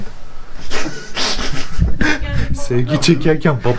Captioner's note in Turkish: Gülüşmeler